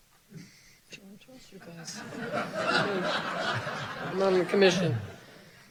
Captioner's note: audience laughing